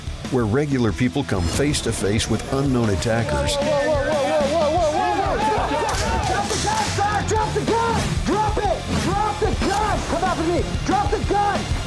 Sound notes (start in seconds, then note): 5.6 exclaiming